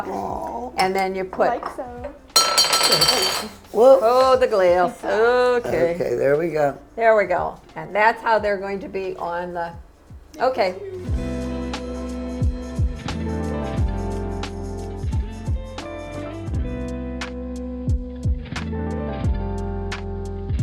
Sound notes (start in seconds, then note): 2.3 glass clattering; 11.2 mellow relaxing music